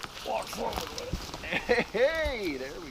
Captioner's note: crunching grass